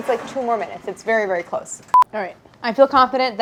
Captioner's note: beep